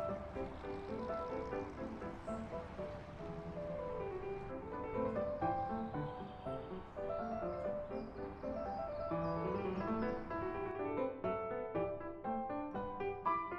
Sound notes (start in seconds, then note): 4.9 birds chirping